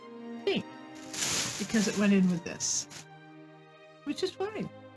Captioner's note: plastic bag rustling